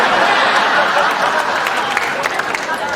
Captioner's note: applause